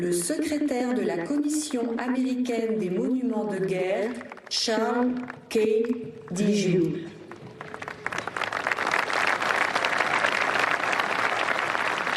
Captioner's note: speaking global language